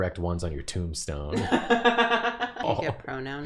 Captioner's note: laughter